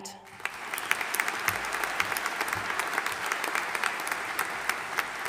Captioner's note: audience applauding